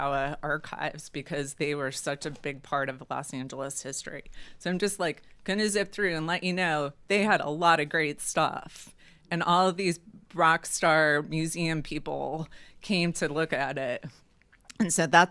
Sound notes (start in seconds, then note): none